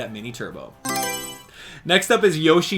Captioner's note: Mario Selection Sound